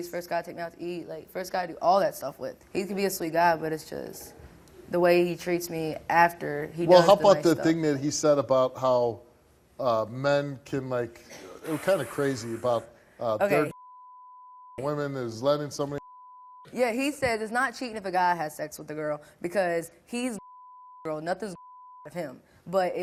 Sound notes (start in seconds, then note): 13.5 beep; 16.0 beep; 20.3 beep